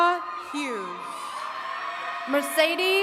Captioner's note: attendees cheering